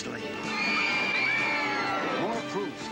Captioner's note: screams